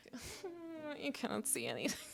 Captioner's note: cries like a bebe